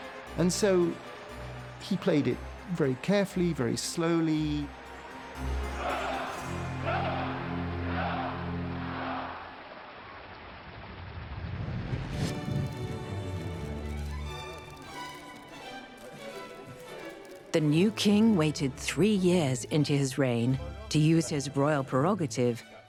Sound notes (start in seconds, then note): 0.0 crowd cheering; 4.6 crowd chanting; 12.1 upbeat music